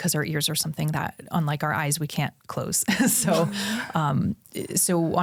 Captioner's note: chuckles